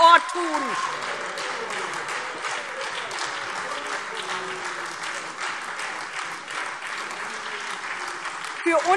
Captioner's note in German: Lebhafter Beifall SPD - Vereinzelter Beifall AfD und Freie Demokraten